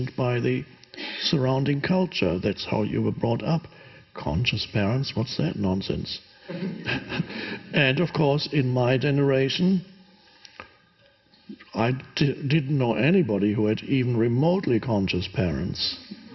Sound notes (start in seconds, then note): 6.4 chuckles